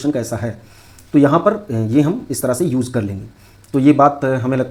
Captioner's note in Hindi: नाक से की जाने वाली आवाज़